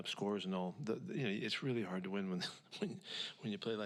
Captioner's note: laughs